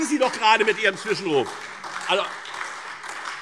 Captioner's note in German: Beifall